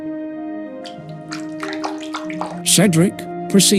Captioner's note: sad wet noises